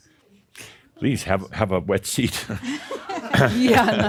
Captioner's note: they chuckle